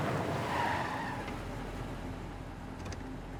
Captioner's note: tire squeal